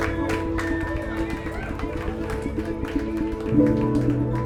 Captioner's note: people cheering